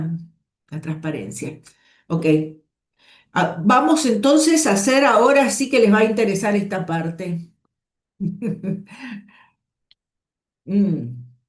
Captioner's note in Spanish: risas